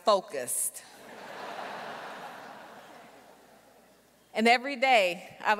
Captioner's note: audience laughing